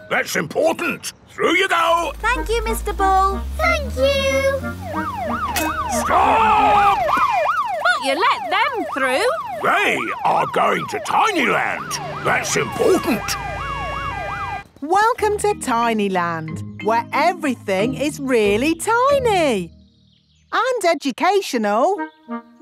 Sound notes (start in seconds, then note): 5.2 siren wailing; 13.6 sirens wailing